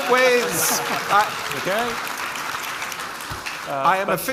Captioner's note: audience applauding; audience laughing